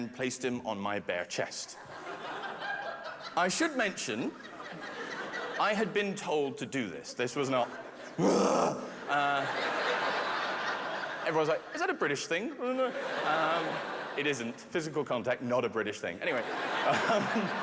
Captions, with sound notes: and I ripped open my gown and placed him on my bare chest. I should mention... [laughter] I had been told to do this. This was not... [growls] Everyone's like, is that a British thing? It isn't. Physical contact, not a British thing. Anyway...